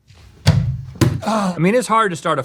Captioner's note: thunk